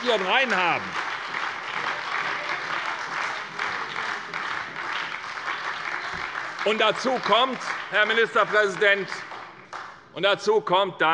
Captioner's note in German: Beifall bei der SPD